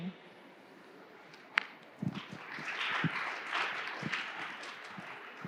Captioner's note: audience clapping hands